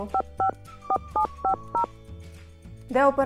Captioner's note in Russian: набор номера на телефоне